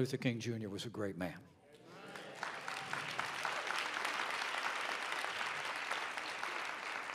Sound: applause

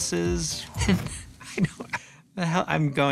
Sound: chuckles

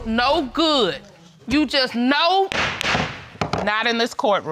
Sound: gavel pounding

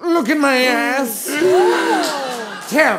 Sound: gasps

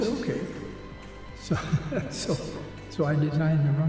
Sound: laughing

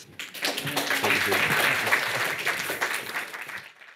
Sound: audience applauding

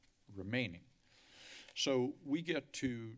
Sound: inhales

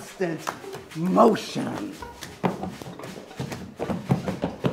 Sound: man is stomping his feet

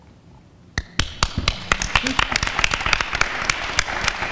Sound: applause

